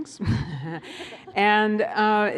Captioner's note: laughter